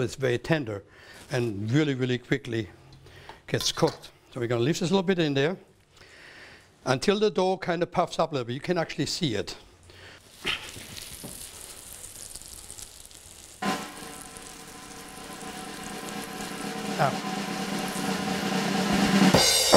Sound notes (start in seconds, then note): 10.7 sizzling